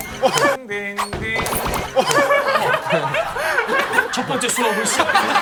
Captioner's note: thump